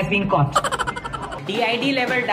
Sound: fake laugh track

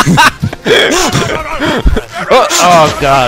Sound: derp yelling

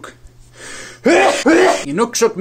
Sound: has two explosive sneezes

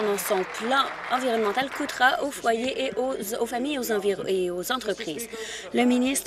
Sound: applause

